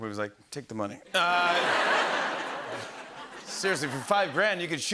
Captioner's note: laughter